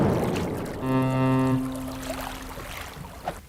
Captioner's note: ferry horn blows